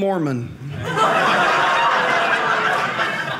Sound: audience laughing

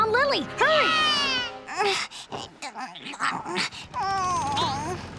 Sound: moaning

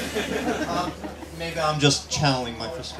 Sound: laughter

